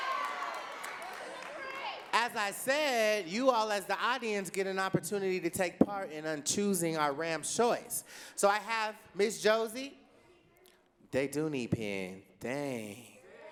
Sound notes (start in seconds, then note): 0.0 audience cheering and clapping